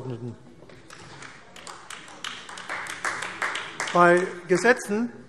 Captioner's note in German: Beifall AfD